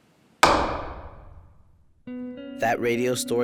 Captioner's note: gavel bangs